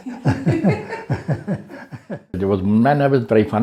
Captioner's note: laughter